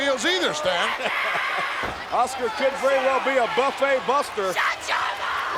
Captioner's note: laugh